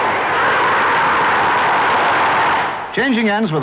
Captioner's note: crowd roaring